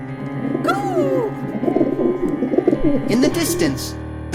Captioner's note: bird cooing